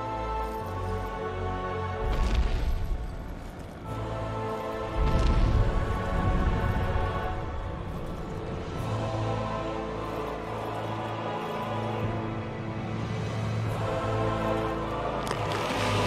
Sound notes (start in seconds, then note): none